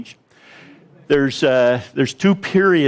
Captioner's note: audience laughs